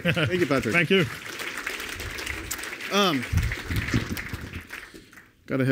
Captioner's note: applause